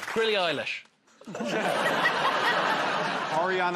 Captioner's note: laughter